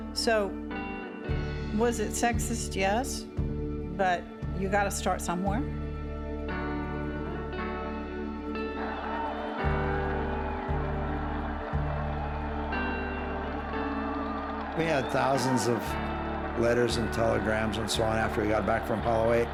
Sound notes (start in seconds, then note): 8.9 cheers and applause